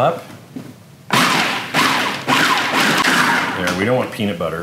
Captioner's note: machine pulsing